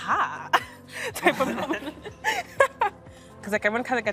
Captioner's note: laughing